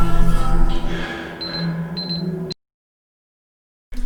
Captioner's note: beeping